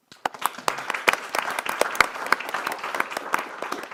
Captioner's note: audience clapping